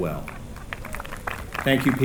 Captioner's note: applause